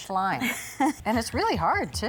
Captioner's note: laughs